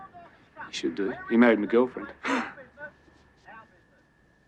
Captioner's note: laughs